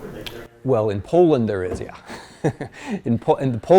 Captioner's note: laughs